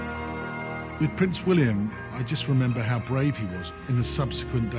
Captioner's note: voiceover